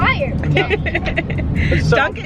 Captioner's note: laughs